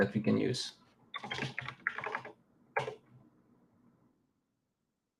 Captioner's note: keyboard clacking